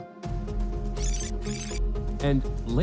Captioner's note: tape fast-forwards